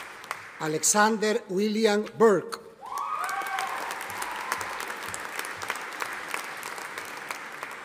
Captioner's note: audience applauding